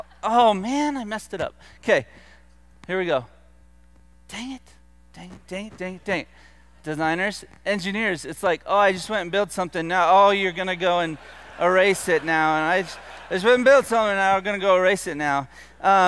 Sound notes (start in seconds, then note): 12.5 laughter